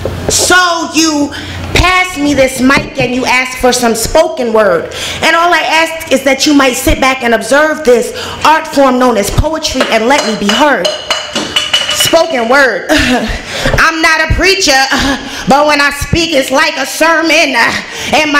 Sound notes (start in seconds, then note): 12.4 laughs